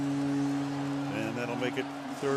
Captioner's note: horn honking